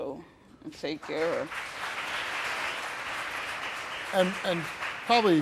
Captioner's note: applauding